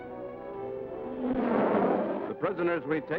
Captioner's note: rocket troop carrier blasting